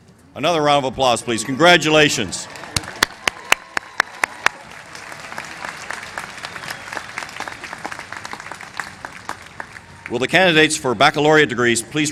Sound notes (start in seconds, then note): 2.4 applause